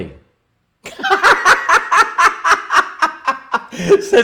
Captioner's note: laughs